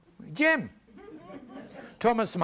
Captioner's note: audience laughs